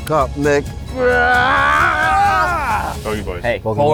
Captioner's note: groans